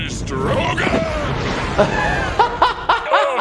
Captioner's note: fire roaring; laughing